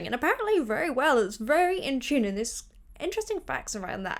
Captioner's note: none